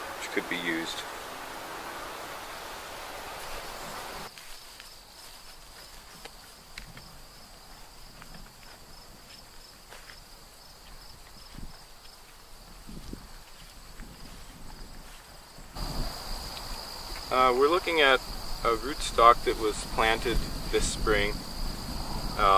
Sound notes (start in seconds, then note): 4.1 crickets chirping